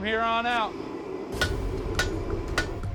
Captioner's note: hammering